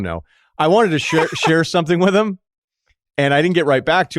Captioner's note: laughs